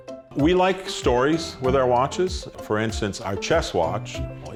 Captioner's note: none